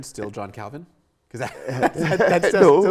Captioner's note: laughing together